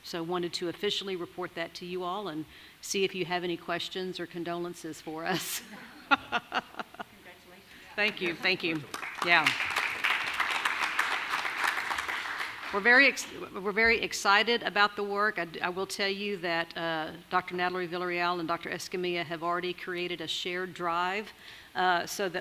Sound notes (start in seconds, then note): 5.3 laughing; 9.7 audience applauding